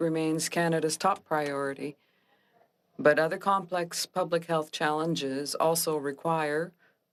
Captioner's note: speaking French